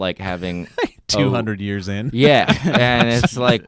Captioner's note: laughs